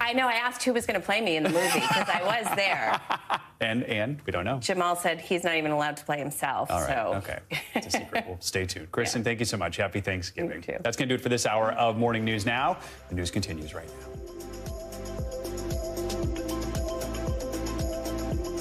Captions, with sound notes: AND THAT IS ON TODAY.COM, A PUMPKIN PIE, IF YOU WERE WONDERING. [ LAUGHTER ] I ASKED WHO WAS GOING TO PLAY ME IN THE MOVIE, BECAUSE I WAS THERE JAMAAL SAYS HE'S NOT EVEN ALLOWED TO PLAY